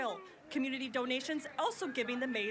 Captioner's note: nats of me screaming